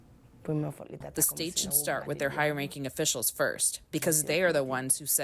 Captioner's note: through translator